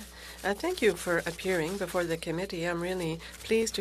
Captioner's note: speaking french